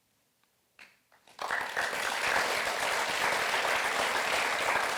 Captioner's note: audience applauds